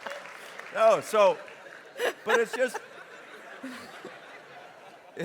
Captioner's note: laughter continues